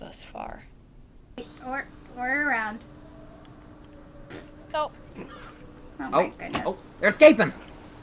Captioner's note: Willow grunts as she falls